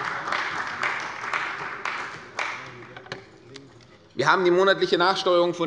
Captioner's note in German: Beifall bei der CDU